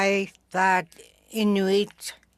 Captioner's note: speaking Alternate Language